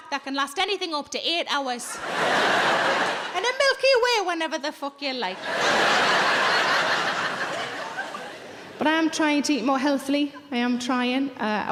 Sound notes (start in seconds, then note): 1.9 audience laughing; 5.3 audience laughing